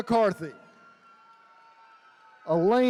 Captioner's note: attendees cheering